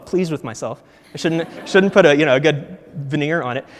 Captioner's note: audience laughs